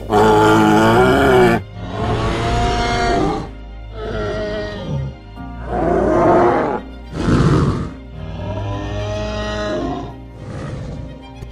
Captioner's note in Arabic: أصوات ترايسيراتوبس